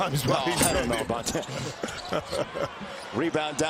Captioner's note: laughter